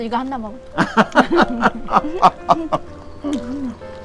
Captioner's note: both laughing